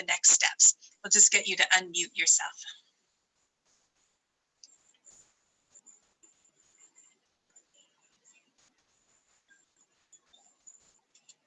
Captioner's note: silence